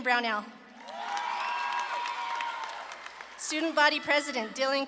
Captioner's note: audience claps and cheers